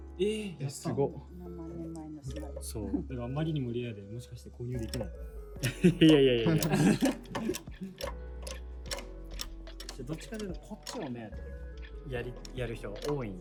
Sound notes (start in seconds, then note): 5.6 laughs